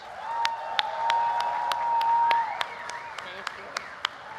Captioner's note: applause